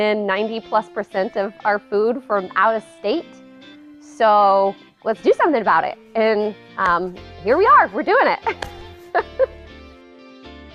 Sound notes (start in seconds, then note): 8.4 laughs